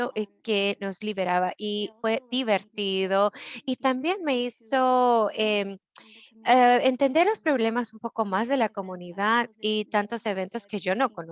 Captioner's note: Spanish